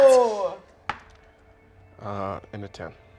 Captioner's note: die rolling